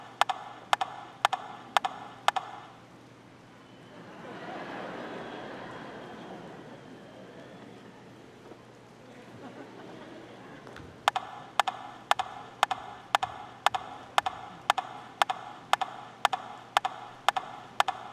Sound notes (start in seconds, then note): 5.7 audience laughing; 12.6 rhythmic tapping